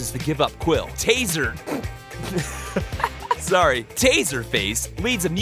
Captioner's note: snickers and laughs